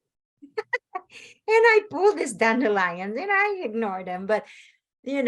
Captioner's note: laughs